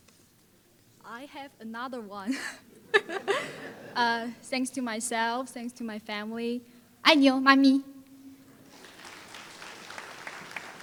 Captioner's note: laughs; foreign Language